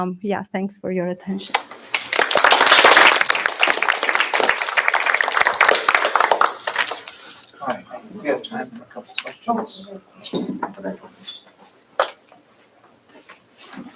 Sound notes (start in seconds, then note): 1.5 applause